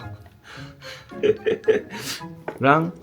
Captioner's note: laughing at how good the ramen looks